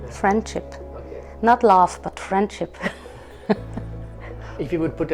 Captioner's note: laughing